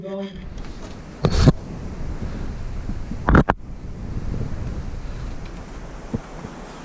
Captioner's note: wind blowing over microphone; scraping and banging